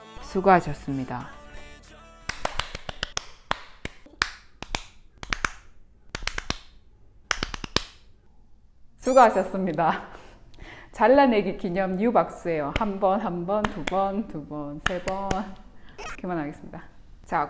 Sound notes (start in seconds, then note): 2.3 clap clap clap